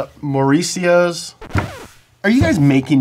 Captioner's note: record whines